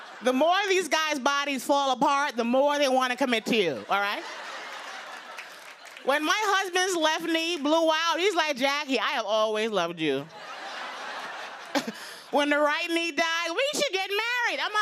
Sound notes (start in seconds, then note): 0.0 laughter; 3.5 laughter; 10.3 laughter